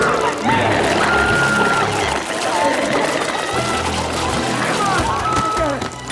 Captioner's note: Chalee screaming; glowzies growling; Chalee screaming